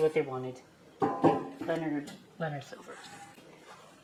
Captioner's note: thud